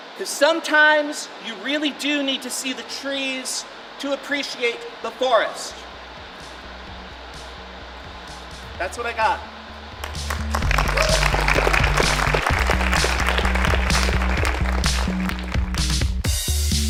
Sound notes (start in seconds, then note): 10.0 audience applauds; 12.1 electronic music